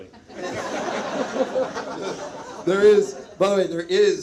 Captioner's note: audience laughs